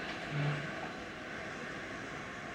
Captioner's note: none